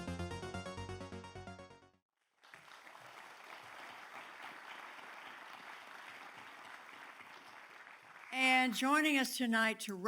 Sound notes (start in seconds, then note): 2.4 audience applauds